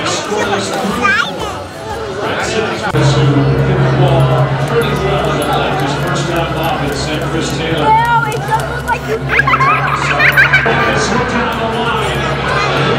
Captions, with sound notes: I'm super excited! (background chattering) (running footsteps) (child giggling eerily)